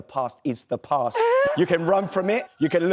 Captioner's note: laughs